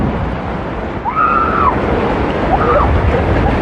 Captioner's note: excititeded scrcreaeam